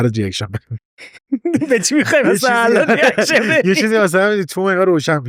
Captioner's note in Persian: خنده